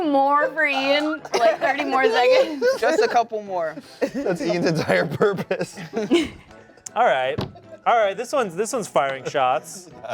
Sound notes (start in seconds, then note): 6.3 laughs